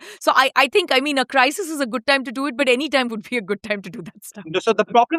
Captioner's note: chuckles